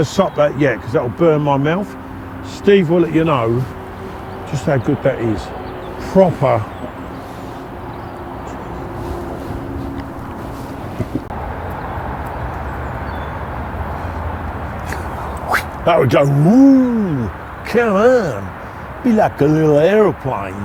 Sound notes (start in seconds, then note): 14.7 whistles